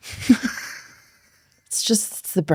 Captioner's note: laughing